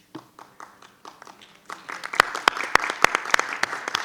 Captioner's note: group applauds